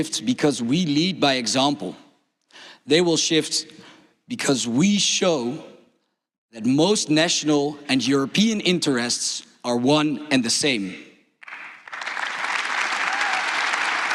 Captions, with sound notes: , they will shift because we show that most national and European interests are one and same. (Applause)